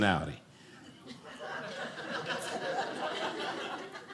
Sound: audience laughing

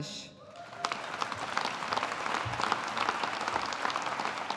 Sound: audience applauding

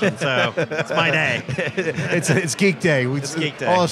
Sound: laughs

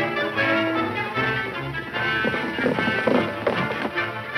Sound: horses galloping

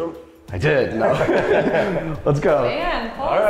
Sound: everyone laughing

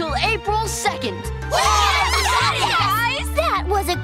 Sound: cheering

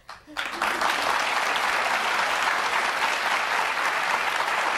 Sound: audience applauding

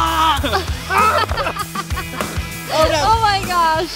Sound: laughing

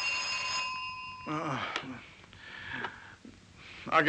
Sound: Mike groaning

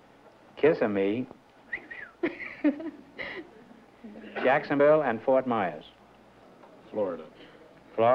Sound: whistles

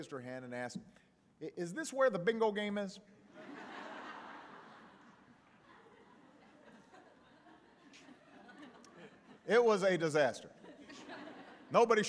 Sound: laughter

